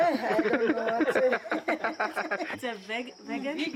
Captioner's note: laughs